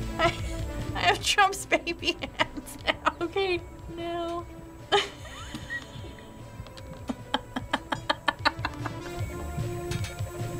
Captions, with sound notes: I have Trump's baby hands now. Okay. Now... (cracking up) (laughing)